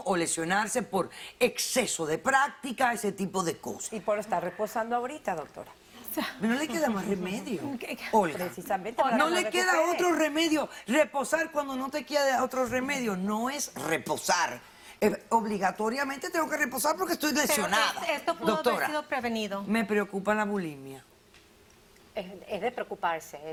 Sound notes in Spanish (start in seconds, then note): 7.1 Risas